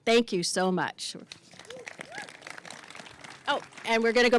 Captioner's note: applause